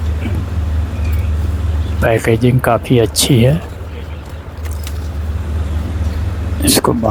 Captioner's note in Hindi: गला साफ़ करने की आवाज़